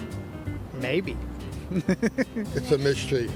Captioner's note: laughing